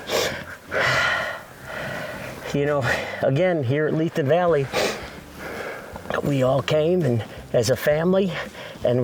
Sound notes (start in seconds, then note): 0.0 breathing heavily; 4.7 sniffs